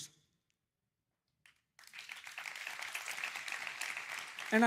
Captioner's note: applause